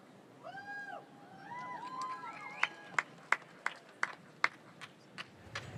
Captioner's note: audience cheering and applauding